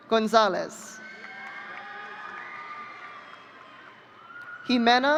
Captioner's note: audience cheering